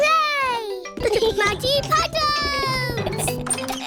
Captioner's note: giggling